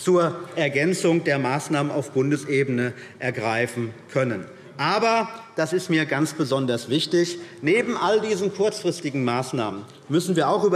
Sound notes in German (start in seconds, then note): none